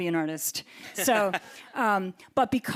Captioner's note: group laughs